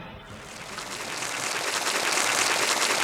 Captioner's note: stock sound of people applauding